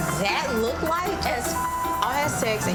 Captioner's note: beep